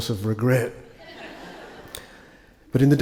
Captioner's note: attendees laugh